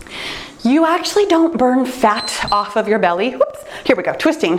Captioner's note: timer beeps